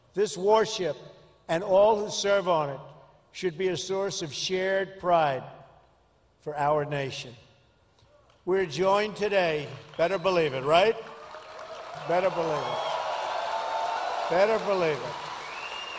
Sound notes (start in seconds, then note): 12.7 applause